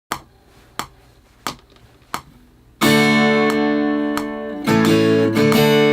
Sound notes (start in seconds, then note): 0.2 metronome clicks; 2.8 mid-tempo music